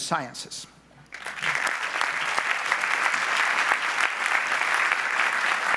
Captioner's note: audience applauds